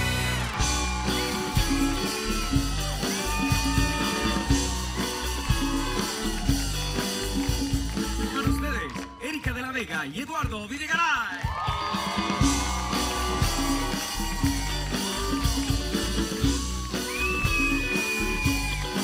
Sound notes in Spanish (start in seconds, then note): 11.0 Ovación